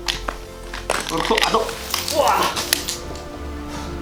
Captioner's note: screams